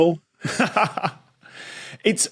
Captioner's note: laughs